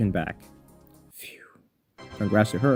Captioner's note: phew